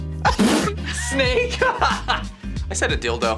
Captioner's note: laughs